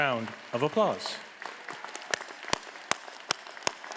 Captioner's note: all applauding